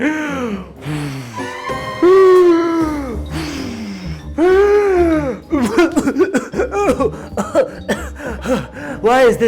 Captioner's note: Big Bad wolf huffing and puffing, and coughing